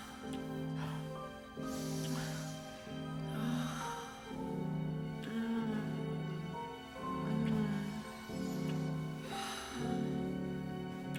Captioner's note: breathing heavily, moaning